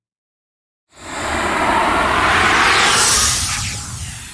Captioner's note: air swooshes